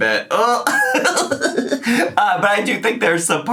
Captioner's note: laughs